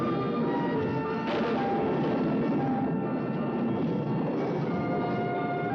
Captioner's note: thunder crashing